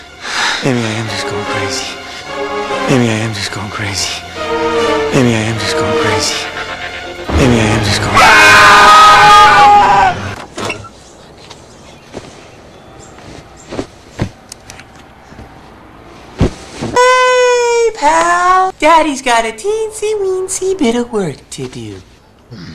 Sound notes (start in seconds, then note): 8.0 both scream; 10.4 door